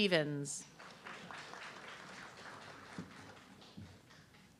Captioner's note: audience clapping